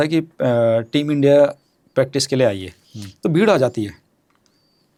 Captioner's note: nasal voice